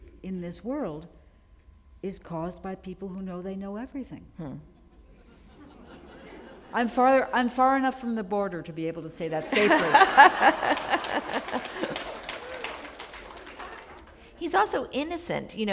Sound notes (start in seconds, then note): 12.0 applause